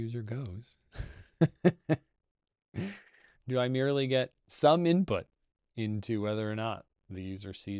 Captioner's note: laughs